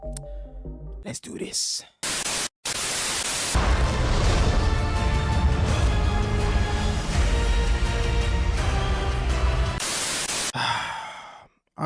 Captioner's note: sigh